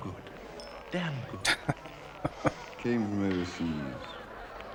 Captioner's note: chuckling